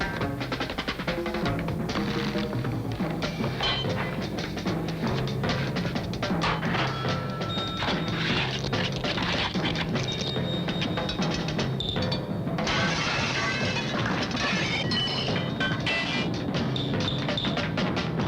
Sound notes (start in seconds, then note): 6.7 cash register dings; 12.6 glass shatters